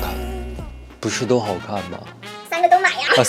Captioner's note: weakly asks